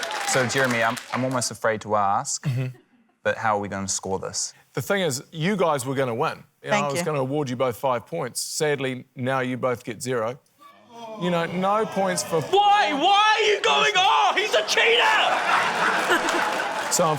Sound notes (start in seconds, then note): 10.8 audience groans; 15.2 laughter